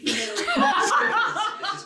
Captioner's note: everyone laughs